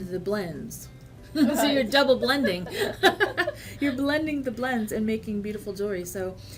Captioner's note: laughs; laughs